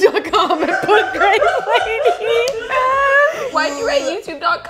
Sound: girls laughing; laughs

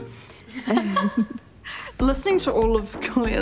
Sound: all giggling

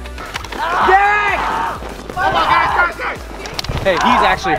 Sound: boy screaming

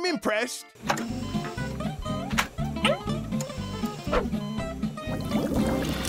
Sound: beeping

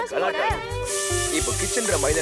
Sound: cooker whistles

